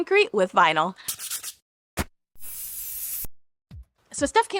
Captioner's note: pencil scratching